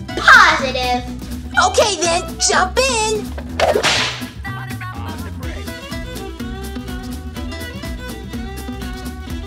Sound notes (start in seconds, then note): 3.6 whip cracks; 4.1 bluegrass music